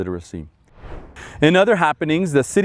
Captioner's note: air whooshing